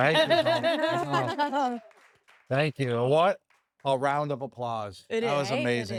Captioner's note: laugh